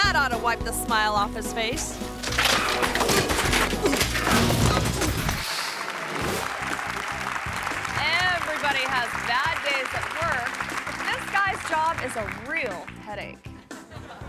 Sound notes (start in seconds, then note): 2.2 bicycle clattering; 2.8 people grunting; 6.4 audience applauding